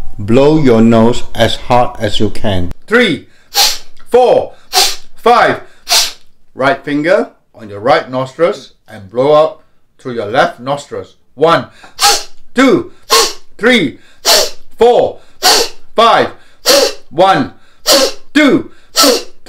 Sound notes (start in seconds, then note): 3.4 whistle of air; 5.7 whistle of air; 11.9 whistle of air; 14.2 whistle of air; 16.5 whistle of air; 18.8 whistle of air